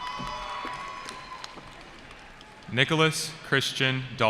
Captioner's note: cheering